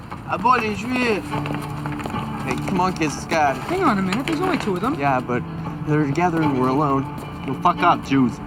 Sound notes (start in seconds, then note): 0.6 speaking in foreign language